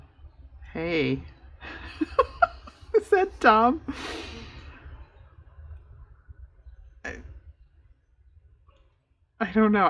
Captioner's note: laughs